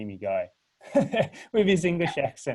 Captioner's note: laughing